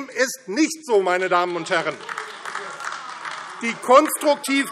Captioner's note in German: Beifall